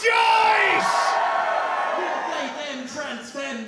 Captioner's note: crowd rejoices